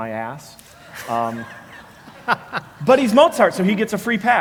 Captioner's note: laugh